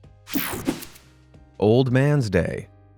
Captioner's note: graphic whooshing